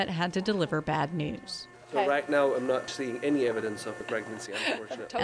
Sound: voice fades

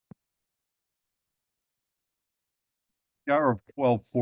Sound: silence

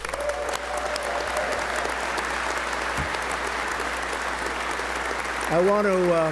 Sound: applause

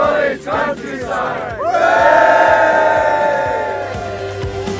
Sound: cheers

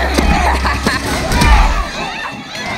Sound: Lenny laughs maniacally

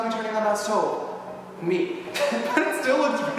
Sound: laughs

